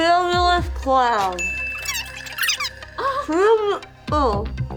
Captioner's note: bell dings